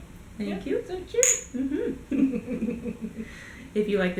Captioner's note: both laugh